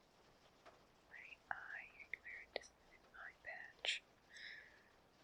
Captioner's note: whisper